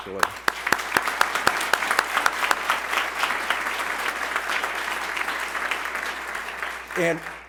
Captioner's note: applause